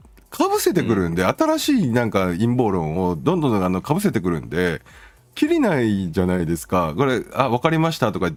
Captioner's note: laughs